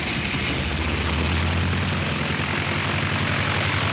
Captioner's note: engine roaring